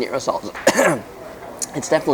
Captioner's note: coughs